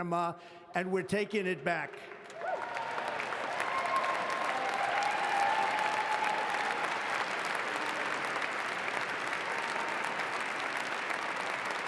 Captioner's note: applause